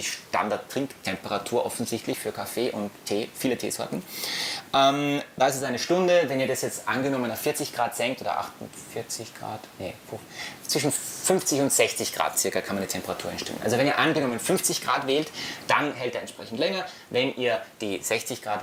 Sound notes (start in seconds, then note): 8.5 thinking and babbling